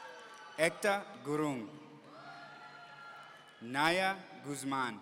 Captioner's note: audience cheering